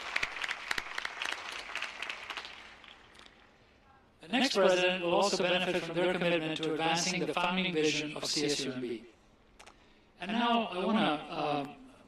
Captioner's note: applause